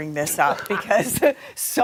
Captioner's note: laughter